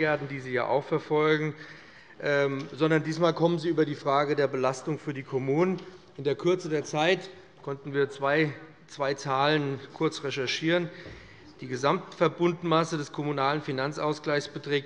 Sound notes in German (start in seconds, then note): none